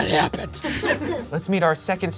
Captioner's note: audience laughing